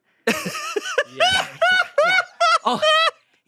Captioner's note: laughs